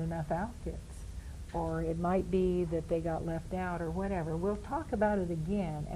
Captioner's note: in high-pitched voice mimicking daughter